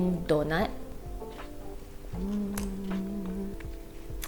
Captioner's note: eating; licking fingers